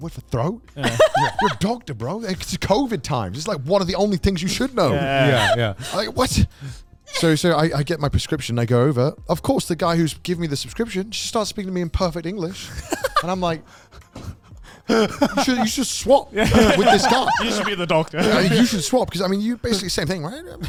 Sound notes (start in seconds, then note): 0.8 men laugh; 16.3 laughs; 16.4 all chattering